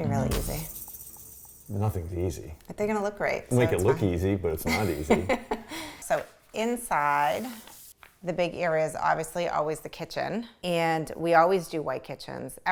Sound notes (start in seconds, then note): 5.3 laughs